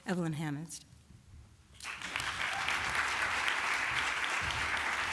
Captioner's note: applause